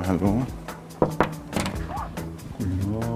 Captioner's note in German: Klopfen